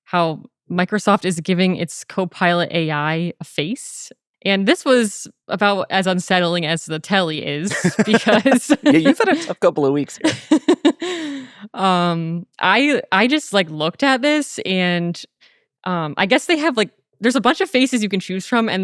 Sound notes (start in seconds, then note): 7.6 laughing